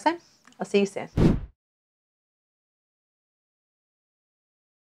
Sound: whooshing

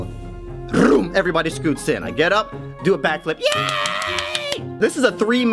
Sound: yay! *furious applause

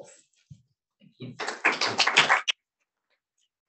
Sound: applause

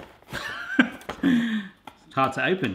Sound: laughing

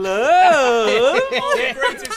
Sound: laughter

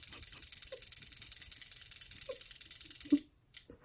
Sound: laughs

